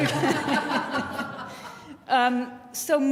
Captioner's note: laughter